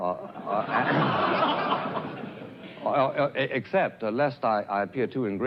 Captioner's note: crowd laughs